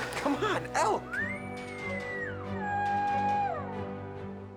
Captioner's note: elk calls